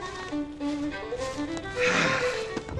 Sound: sighs

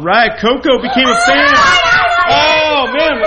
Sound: screams

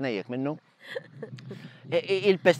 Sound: giggling

